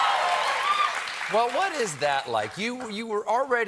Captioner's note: cheers and applause